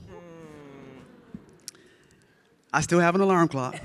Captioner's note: audience laughing